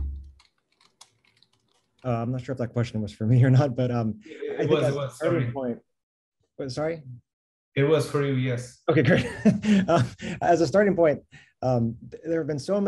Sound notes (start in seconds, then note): 9.0 laughter